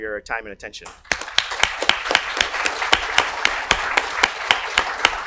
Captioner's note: audience applauds